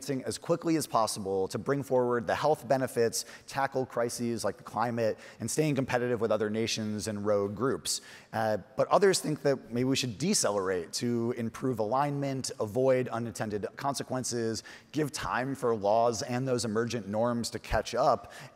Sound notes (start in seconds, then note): none